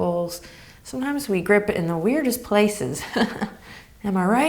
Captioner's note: chuckles